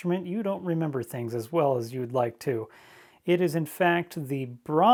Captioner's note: none